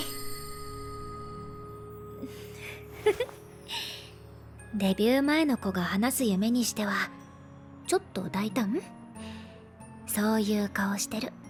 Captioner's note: laugh